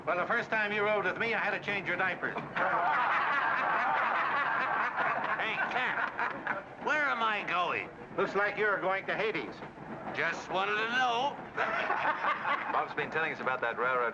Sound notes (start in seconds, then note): 2.4 men laugh; 11.5 men laugh